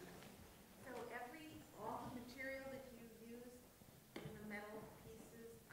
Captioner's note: voiceover